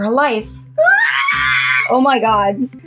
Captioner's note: Screech